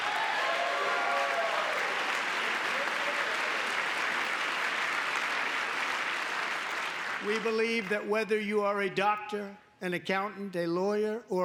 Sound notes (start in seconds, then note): 4.8 applause; 4.8 cheering